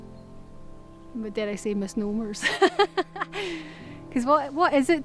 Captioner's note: Lauren laughs